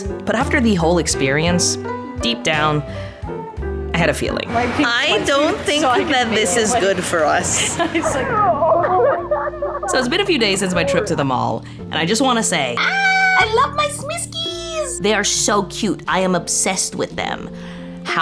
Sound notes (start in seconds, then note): 7.5 friends chattering and laughing; 12.7 screaming